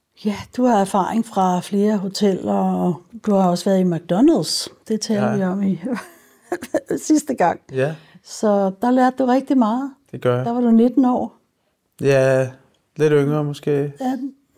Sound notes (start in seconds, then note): 7.5 laughs